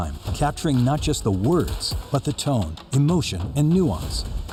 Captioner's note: speaking another language